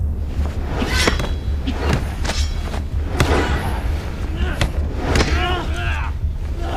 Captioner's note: whooshing; metal clinking